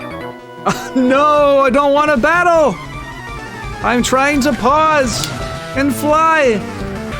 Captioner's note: laughs